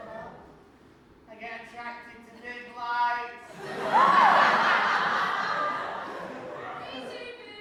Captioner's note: audience laughs